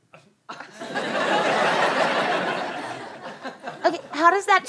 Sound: audience laughter

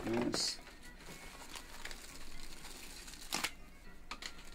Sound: paper rustling

